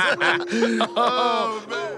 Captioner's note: Bunny laughing; laughs